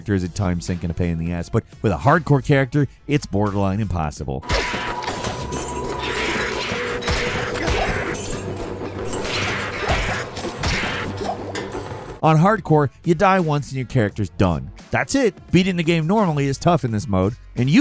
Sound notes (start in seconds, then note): 4.4 dramatic music; 4.5 weapons clanging